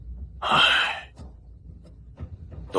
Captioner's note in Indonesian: Menghela napas